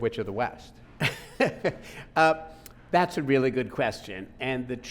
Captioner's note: laughing